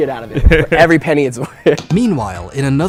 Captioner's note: chuckles